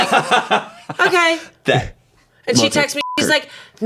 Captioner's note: beep